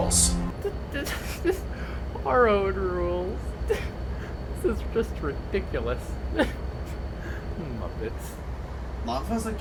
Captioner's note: trying not to giggle; giggles a bit